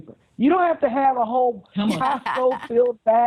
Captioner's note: laughter